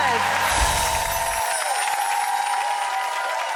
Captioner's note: bells chime